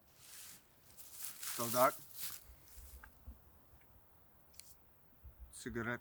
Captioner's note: prisoner speaking in German